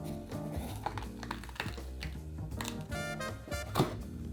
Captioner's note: pepper peeling open